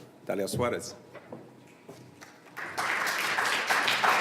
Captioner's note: applause